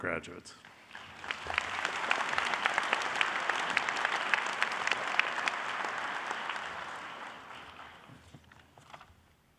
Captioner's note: applause